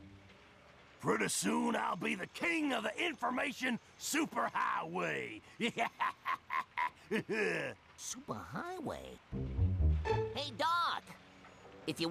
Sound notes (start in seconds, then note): 5.5 laughing